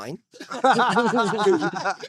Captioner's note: laughing